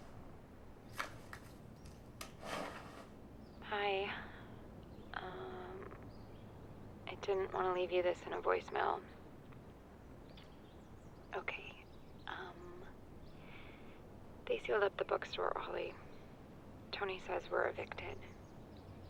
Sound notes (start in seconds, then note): 3.6 on phone